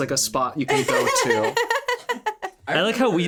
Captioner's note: laughing